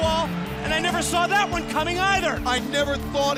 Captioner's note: bell ringing